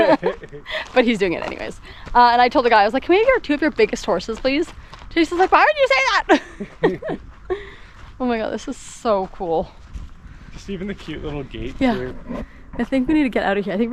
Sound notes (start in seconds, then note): 5.9 laughs